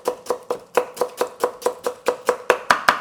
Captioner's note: chopping